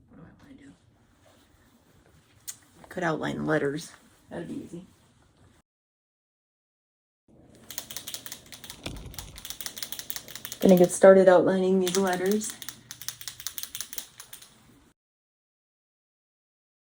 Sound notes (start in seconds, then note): 5.2 shaking pen; 13.9 shaking pen